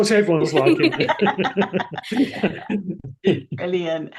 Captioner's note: laughter